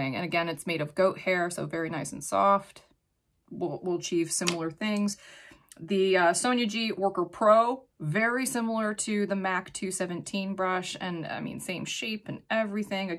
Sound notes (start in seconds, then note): none